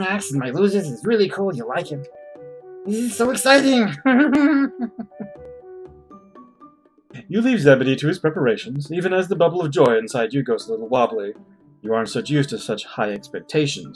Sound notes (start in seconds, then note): 3.8 laughs